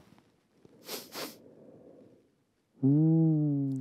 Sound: sniffing

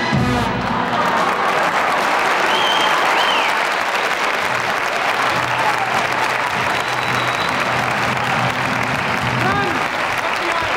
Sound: audience applauding

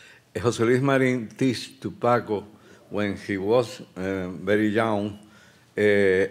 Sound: speaking Spanish

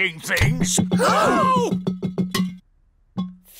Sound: all gasp

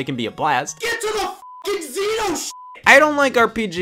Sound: beep

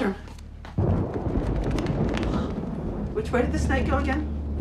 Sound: hissing sound

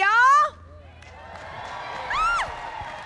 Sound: cheering and applause

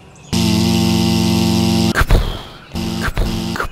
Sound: buzz; pound; pounding footsteps

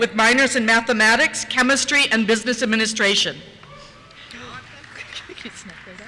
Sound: cheers

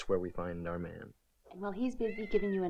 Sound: cat softly meows

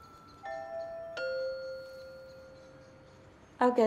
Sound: doorbell ringing

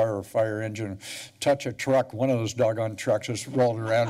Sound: laughter

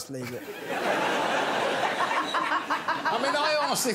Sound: laughter

